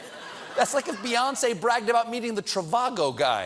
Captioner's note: laughter